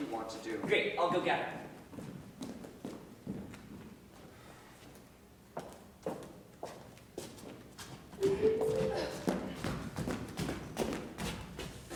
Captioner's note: text message alert